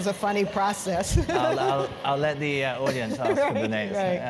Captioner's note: laughs